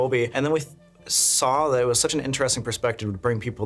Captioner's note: none